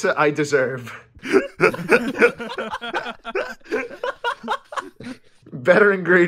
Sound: laughter

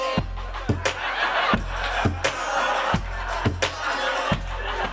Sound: audience laughing

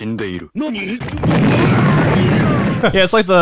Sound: man yells

